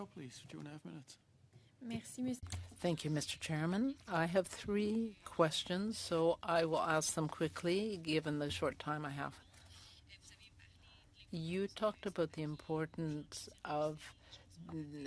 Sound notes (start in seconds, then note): 8.1 speaking French